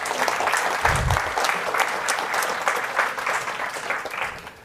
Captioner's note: applause